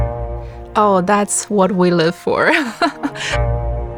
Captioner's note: laughs